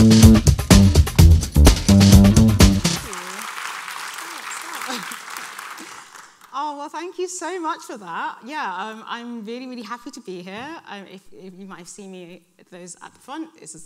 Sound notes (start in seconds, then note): 2.6 audience applauding